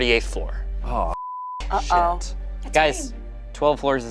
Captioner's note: beeps